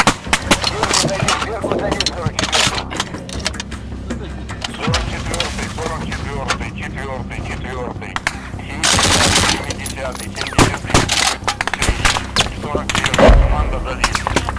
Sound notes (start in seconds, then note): 0.9 radio exchange; 5.5 radio exchange